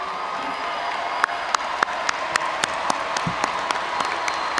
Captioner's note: audience applauding